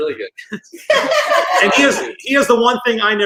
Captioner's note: all laugh